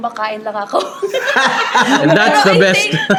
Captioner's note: laughs